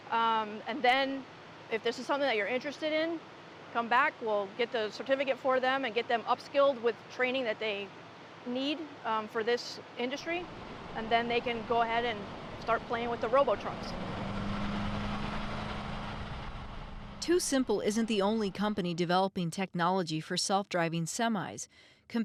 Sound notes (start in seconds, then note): 14.3 truck hums